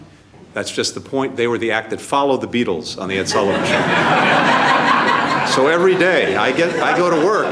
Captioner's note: laughter